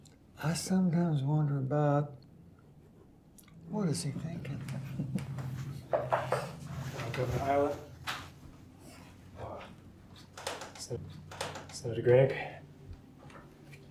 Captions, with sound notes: I sometimes wonder about what is he thinking? (knuckles rapping) - Governor Ireland. Sen-Senator Gregg.